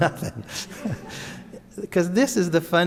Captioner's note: audience laughs; laughs